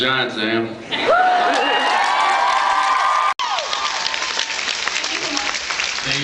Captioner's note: cheers, applause; applause